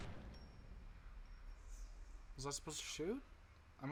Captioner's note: gunshot